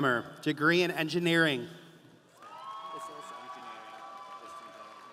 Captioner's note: audience applauding